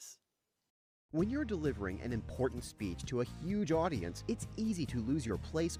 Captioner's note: voiceover